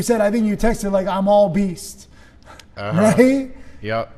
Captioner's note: chuckles